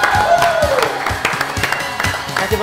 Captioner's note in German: Jubel